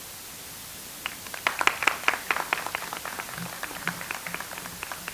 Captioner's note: audience applauds